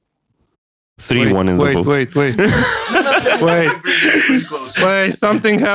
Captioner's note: confusedly